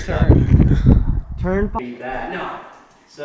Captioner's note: laughing